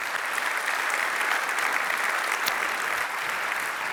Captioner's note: applause